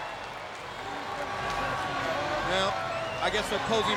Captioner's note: crowd cheering